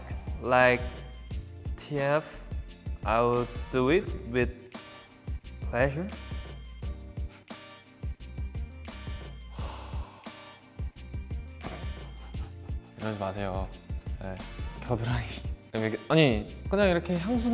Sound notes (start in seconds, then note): 7.4 chuckles; 9.5 sighs; 11.7 chuckles; 13.1 speaks Korean